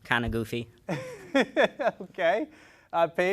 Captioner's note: chuckles